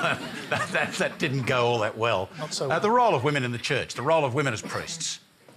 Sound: laughter

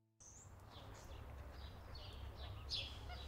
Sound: birds chirp

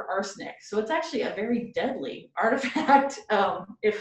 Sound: laughs

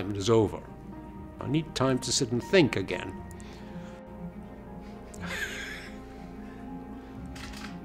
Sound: laughs; camera shutter clicks

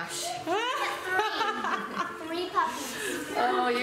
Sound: laughter

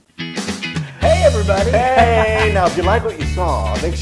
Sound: laugh

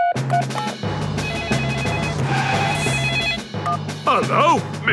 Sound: phone ringing; beeping

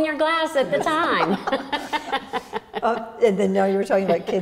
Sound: laughs

